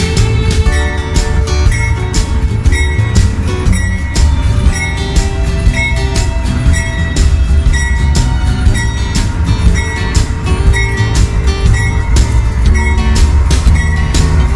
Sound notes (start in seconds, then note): 0.1 train bell